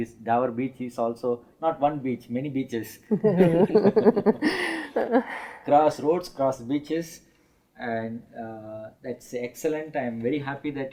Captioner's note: ha ha ha